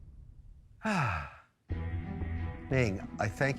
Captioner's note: Mr. Wonderful sighing; tense music beginning